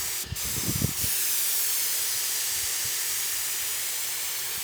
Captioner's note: nozzle hissing